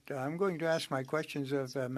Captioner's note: speaking French